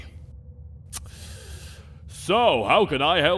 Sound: sharp inhale

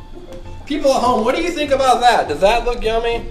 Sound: voiceover

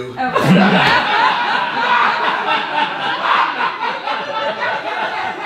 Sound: audience laughing

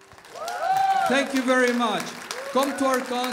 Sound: applause

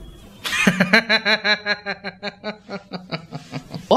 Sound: laughs

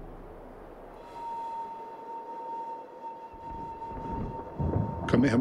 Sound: wind whistles

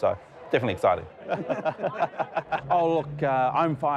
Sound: laughing

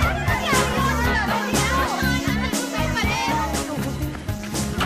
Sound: chattering

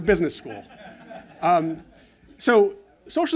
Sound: laughter

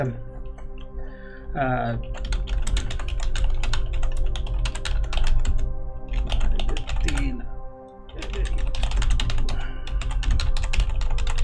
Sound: furious typing

